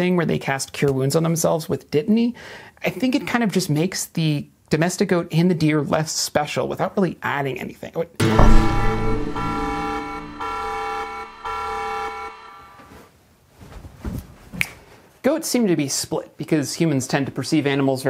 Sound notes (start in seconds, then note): 8.2 an alarm sounds